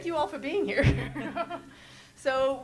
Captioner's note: panelists chuckle